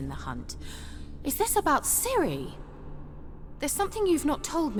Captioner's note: gasp